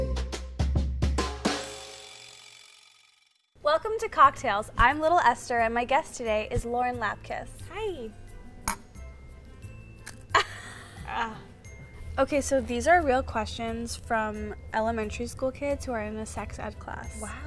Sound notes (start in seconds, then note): 8.6 glasses clink; 10.3 laughter